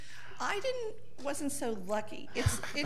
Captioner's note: audience laughing